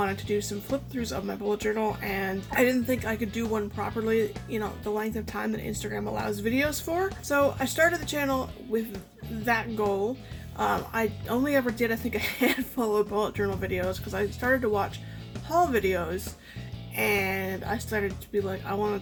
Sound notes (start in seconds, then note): 12.2 laughing